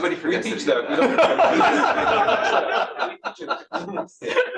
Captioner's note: laughter